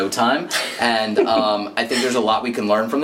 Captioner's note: laughing